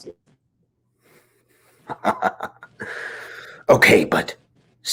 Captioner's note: Dominic laughs